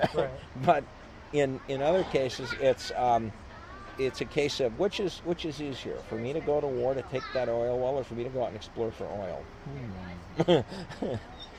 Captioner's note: laughs